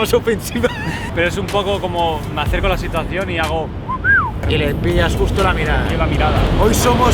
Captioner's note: whistles